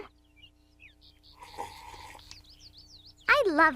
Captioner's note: sip